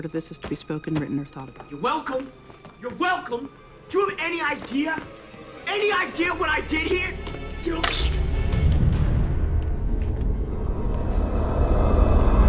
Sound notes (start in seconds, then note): 7.8 syringe shoots